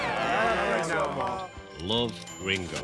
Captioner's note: girls screaming